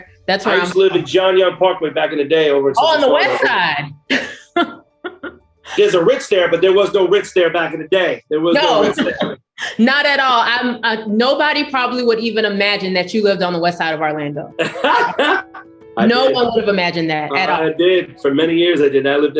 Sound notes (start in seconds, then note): 5.6 laughs; 14.6 laughs